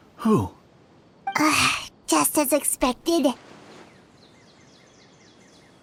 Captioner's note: sigh